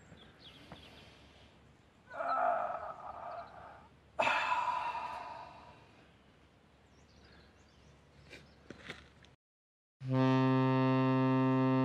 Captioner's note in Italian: suono di sirena di nave